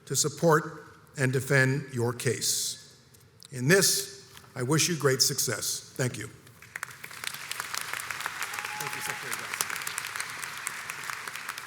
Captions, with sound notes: to support and defend your case. In this, I wish you great success. Thank you. (audience applauds) - Thank you Secretary Johnson.